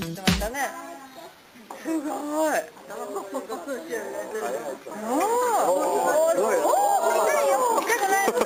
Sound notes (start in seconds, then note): 1.4 tourists cheering